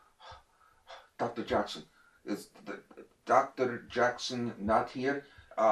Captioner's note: east europian accent